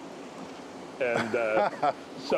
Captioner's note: laughter